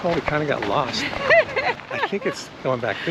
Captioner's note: Nicole laughs